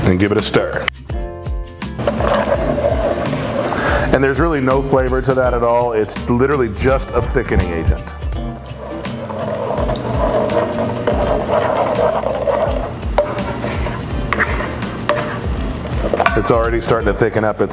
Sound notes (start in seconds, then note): 9.1 spoon scraping